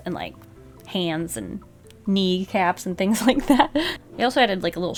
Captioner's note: laughs